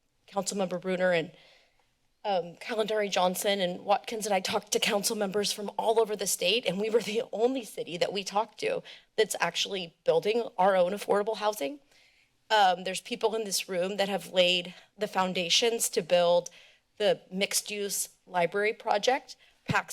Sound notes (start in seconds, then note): none